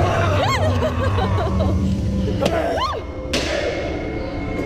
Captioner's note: screaming